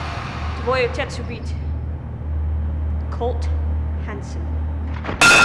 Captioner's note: speaking Russian